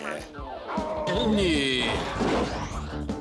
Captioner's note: gulping